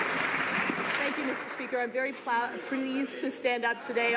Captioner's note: some Applause